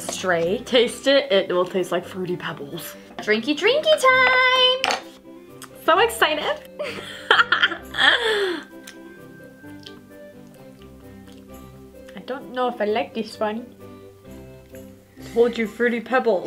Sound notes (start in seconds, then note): 8.8 laughs; 9.7 smacking lips